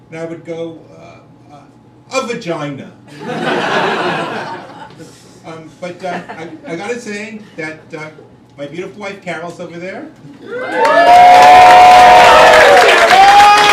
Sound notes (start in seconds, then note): 3.1 crowd laughing; 10.4 crowd cheering